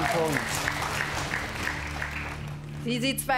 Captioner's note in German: Applaus